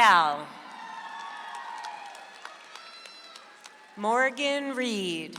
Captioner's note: audience applauds